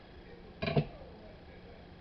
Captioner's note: knife Being Put Down Sounds